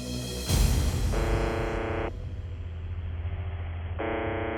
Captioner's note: buzzing tone